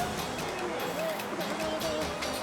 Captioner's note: edgy dramatic music; rescuers shouting; suspenseful music